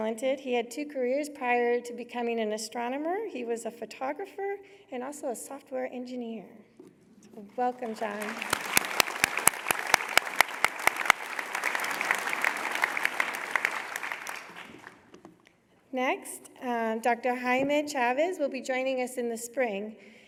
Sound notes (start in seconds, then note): 7.7 applause